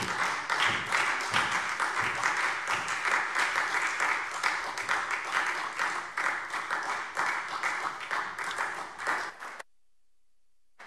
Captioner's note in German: Beifall SPD